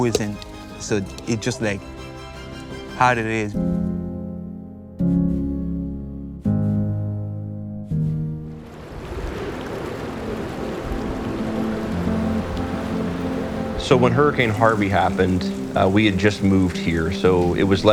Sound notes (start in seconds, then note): 7.5 somber music; 12.6 water flowing; 14.3 somber music